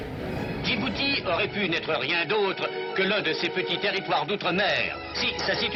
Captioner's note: announcer speaking foreign language